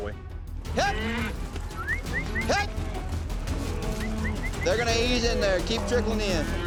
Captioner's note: whistles